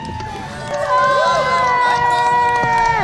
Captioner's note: cheering